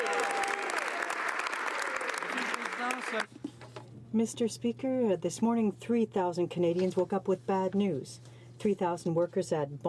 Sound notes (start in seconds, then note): 2.5 some Applause